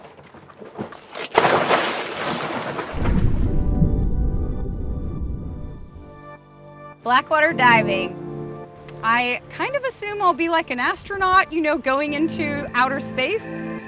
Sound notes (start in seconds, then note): 0.5 water splashing